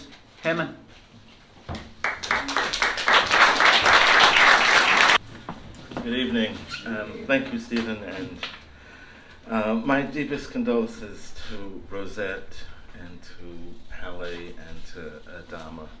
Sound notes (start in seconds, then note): 2.0 applause